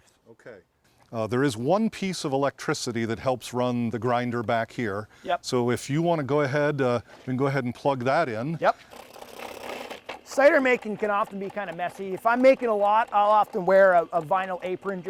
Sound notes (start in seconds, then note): 8.6 grinder motor running